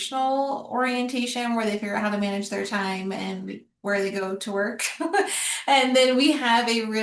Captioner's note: laughter